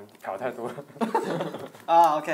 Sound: laughing

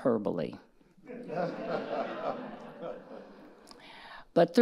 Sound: audience laughing

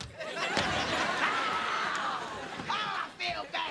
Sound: screaming

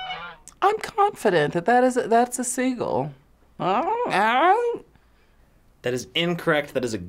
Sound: squawks

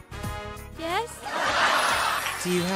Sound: audience laughs

